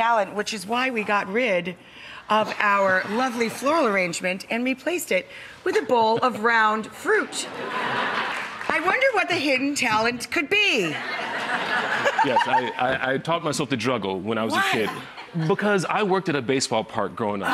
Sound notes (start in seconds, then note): 6.9 laughs; 7.3 audience laughs